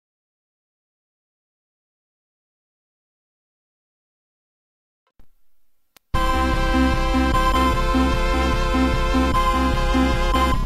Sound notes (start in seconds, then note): 0.0 silence; 6.1 8-bit console startup music plays